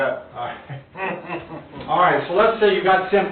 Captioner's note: both chuckling